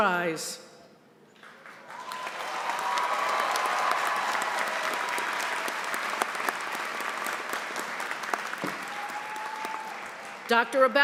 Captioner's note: applause